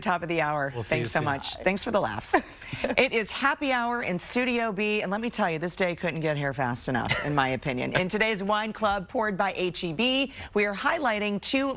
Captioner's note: laughter